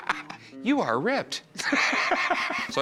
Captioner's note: laughing